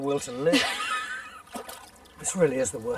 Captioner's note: laughs